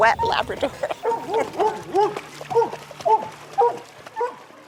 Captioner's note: dog barking